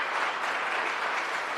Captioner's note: applause